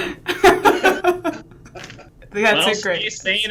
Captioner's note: laughs